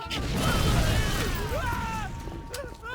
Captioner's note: screaming